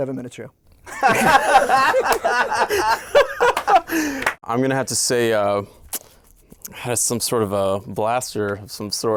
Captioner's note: laughter